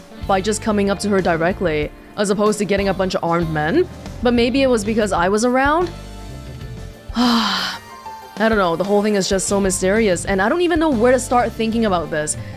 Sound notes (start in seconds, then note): 7.0 sighs